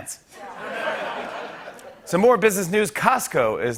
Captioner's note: laughter